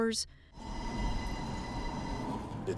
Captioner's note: cable car whirs